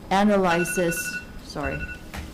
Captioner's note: cell phone ringing